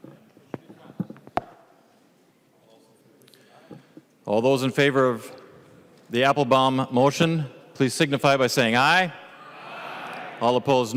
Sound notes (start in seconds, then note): 9.2 chorus of ayes